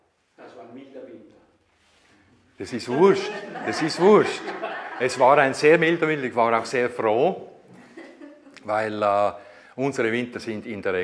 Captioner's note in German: Gelächter